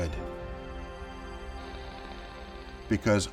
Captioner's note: tv static